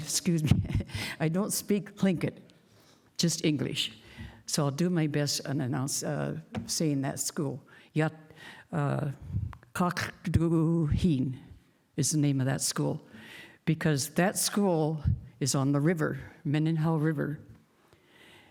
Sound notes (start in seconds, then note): 10.4 speaking indigenous language